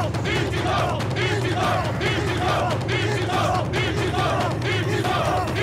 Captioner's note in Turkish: Hep bir ağızdan